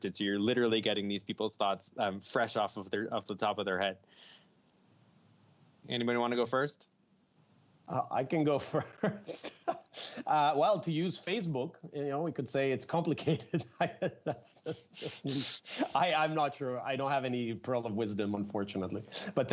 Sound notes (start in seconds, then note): 8.5 chuckles; 13.1 chuckles